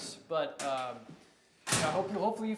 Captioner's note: locker door closes